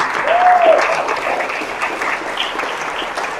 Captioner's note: applause